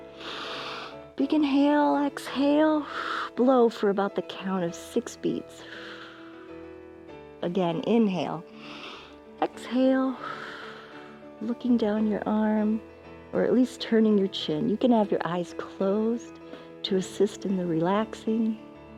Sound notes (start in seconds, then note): 0.1 inhales; 0.1 exhales; 5.6 exhales; 8.5 exhales; 8.5 inhales